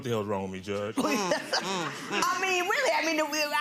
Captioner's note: laughing